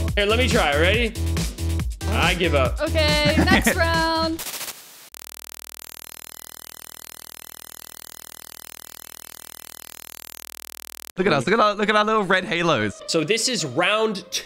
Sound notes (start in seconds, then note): 3.1 laughs; 5.0 screen buzzing